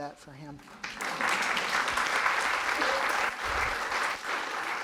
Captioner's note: audience applauding